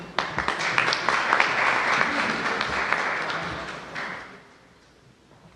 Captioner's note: applause